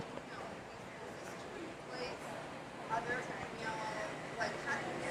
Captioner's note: faintly speaking